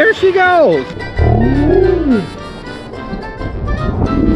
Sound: water splashing

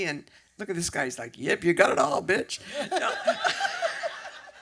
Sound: laughter

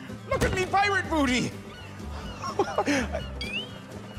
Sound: chuckles

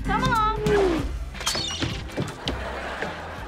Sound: squawking

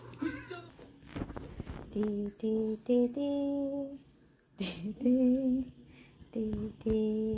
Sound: laughs

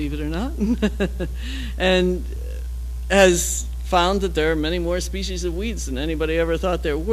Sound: laugh

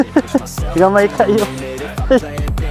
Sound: laughs

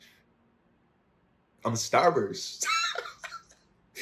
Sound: laughs

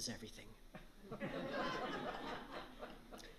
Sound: laughter

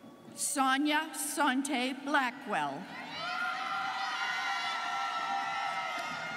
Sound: students cheering

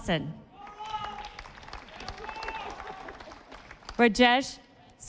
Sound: audience applauding

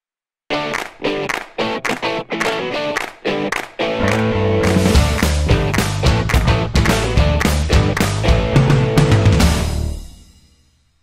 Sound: claps

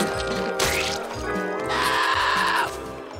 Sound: screaming

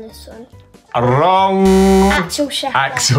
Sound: buzzer

